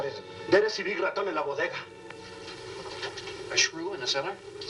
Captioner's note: speaking spanish